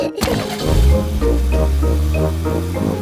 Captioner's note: laughing; car engine starts